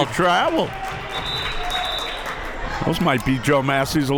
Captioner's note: whistle